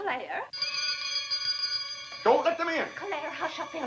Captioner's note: doorbell rings